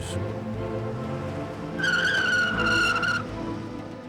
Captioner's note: tires screech